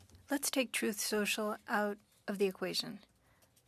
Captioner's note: speaking French